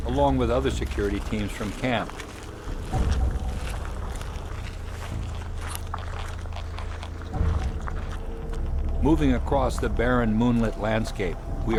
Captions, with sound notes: along with other security teams from camp. [footsteps in gravel] Moving across the barren, moonlit landscape,